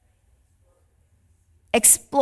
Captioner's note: participant faintly speaking